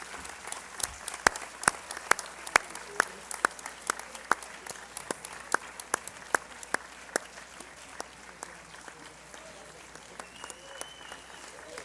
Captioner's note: cheering & Applause